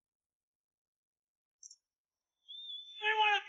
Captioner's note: crowd cheerin